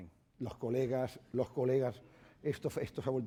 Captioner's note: speaking spanish